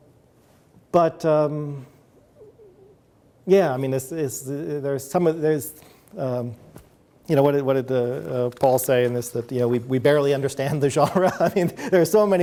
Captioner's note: chuckles